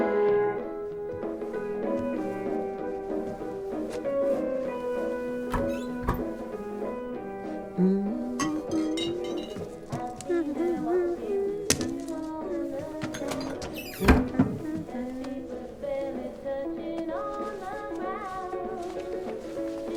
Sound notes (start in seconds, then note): 0.1 jazz music; 7.7 humming along